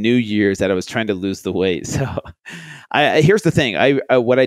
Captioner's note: laughs